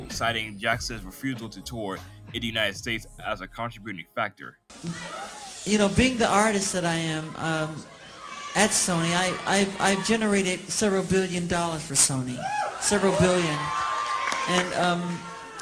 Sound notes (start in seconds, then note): 4.5 Clips Of Michael Jackson Criticizing Sony plays